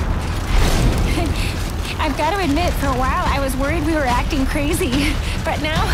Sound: panting

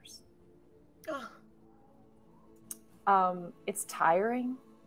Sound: groans

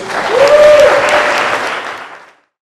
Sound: cheers and applause

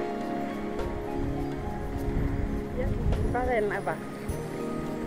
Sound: in french

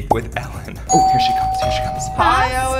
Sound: doorbell rings

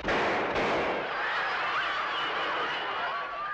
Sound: laughter

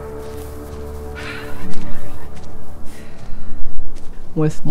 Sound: sighs

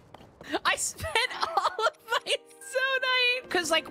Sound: laughing

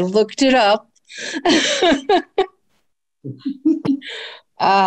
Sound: laughs

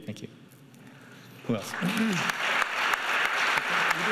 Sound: clapping

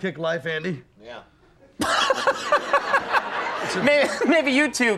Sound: Conan laughing

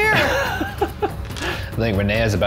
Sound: laughs

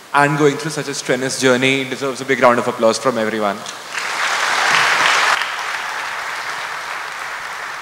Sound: applause

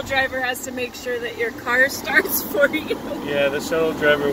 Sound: laughing

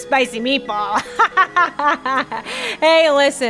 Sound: laughs

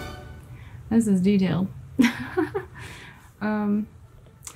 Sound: chuckle

